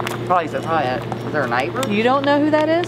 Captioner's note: stammers